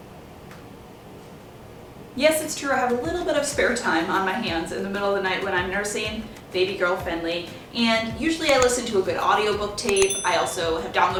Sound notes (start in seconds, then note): 8.4 clicking; 9.9 bell ringing